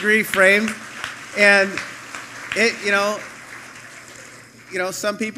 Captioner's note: applause